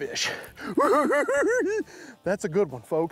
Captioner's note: giggles